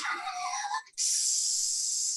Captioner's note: laughs